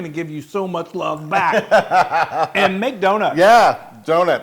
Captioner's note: laugh